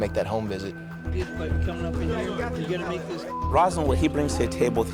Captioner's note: background chatter